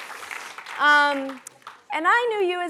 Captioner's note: applause